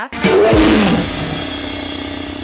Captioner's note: roars